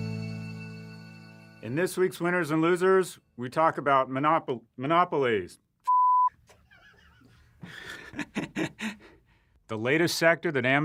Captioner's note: laughing